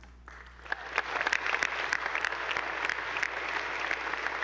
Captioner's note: attendees applauding